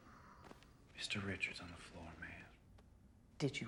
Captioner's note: none